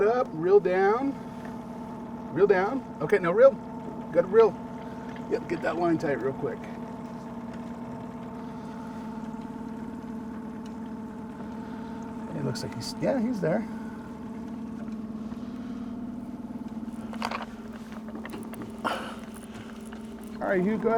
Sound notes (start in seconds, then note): 7.8 boat engine idling; 16.7 rustling